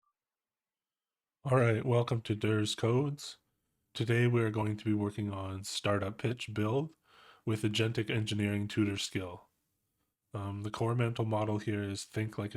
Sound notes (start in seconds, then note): 0.0 silence